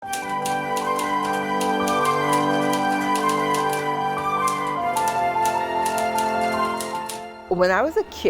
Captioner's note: typewriter noise; emotional orchestral music